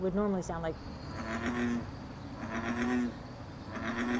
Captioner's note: frogs croaking